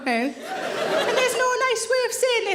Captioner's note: audience laughing